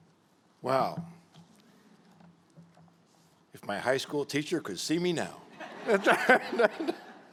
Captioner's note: laughter